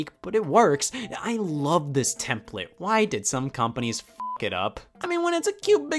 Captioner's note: beep